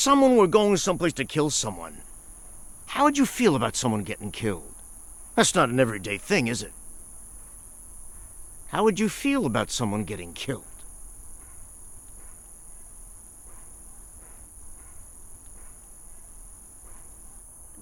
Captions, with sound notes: If someone where going someplace to kill someone, how would you feel about someone gettin' killed? That's not an everyday thing, is it? How would you feel about someone getting killed? (insects chirping)